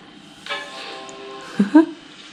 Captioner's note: computer chime